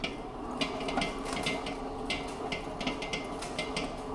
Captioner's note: mixer clanking